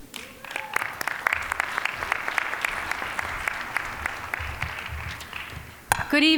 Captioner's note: applause